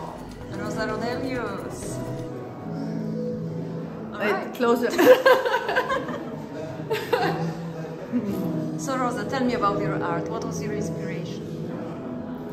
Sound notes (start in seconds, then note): 4.9 śmiech